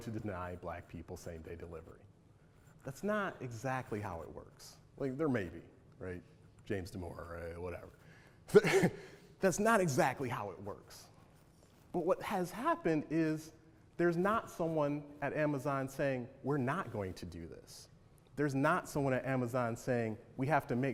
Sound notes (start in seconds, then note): 8.5 chuckles